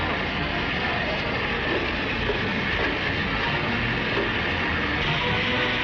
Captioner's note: engines roaring; dramatic music continues